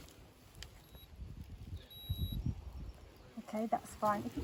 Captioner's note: thermometer beeping